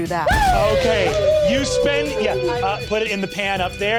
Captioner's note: players cheering